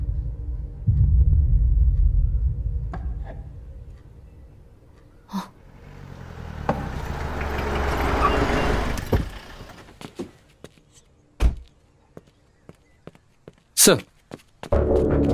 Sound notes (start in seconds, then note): 5.6 vehicle Screeching